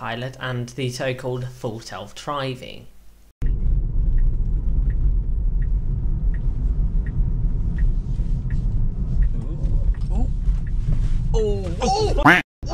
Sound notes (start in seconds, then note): 3.9 turn signal; 12.2 quack